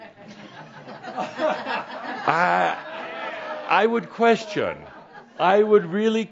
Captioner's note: some chuckles